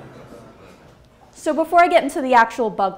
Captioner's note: laughs